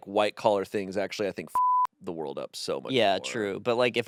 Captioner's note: beep